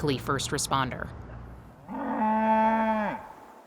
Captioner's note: cow mooing